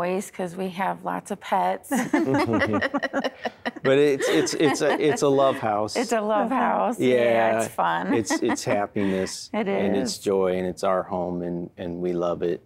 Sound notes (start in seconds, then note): 1.9 laughter; 7.0 giggling